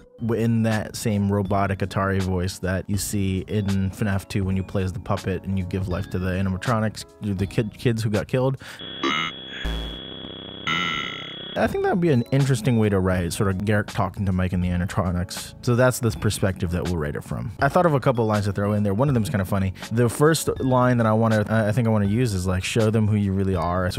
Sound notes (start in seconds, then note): 8.6 robot Voice